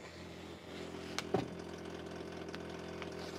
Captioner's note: the humming gets deeper